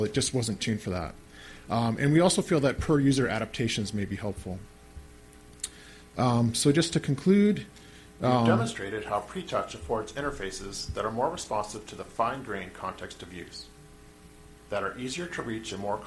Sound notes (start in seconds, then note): 8.7 voiceover